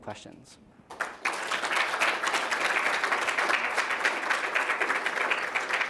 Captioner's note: applause